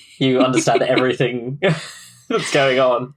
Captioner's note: laughs